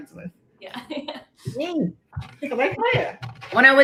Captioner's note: laughs